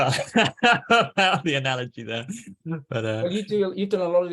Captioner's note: laughs